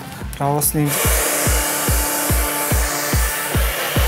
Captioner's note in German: Föhnlärm, aufregende Musik